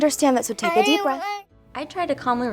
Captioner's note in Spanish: El niño gimiendo y tratando de hablar